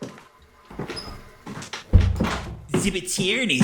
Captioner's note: footsteps approach; door opens; door closes